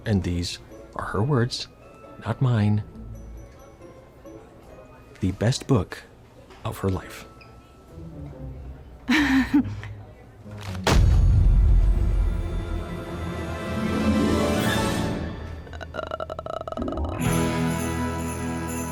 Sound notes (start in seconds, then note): 9.1 nervously giggles; 10.6 books thud; 15.6 groans; 17.1 sleigh bells jingling